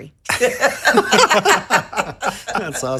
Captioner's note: all laughing